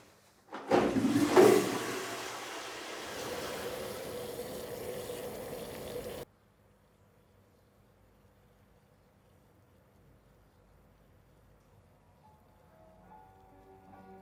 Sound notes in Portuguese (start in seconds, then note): 3.4 café fervendo